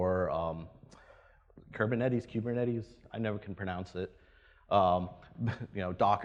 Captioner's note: laughs